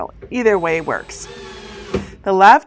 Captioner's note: tools whirring